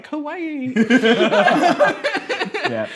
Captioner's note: laughing